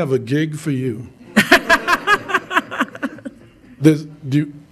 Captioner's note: crowd laughing